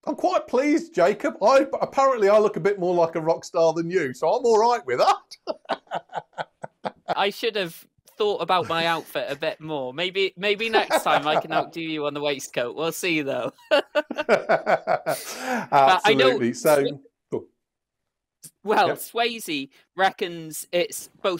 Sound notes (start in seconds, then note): 4.5 laughs; 13.4 laughter